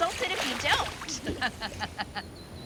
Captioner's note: laughs; wind howling